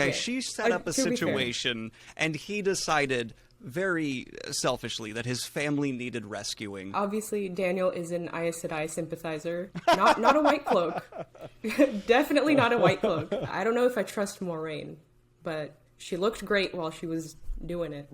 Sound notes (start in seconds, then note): 9.8 laughing